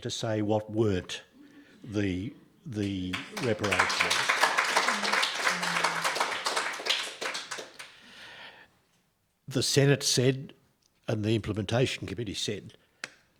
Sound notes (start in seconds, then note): 2.8 audience clapping